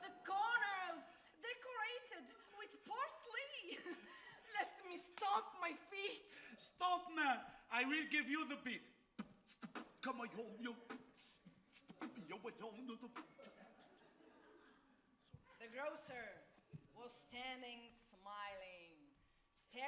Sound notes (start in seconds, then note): 9.2 man beatboxes; 11.9 audience laughs